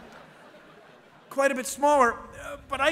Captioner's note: laughter